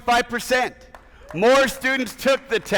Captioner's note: attendees applauding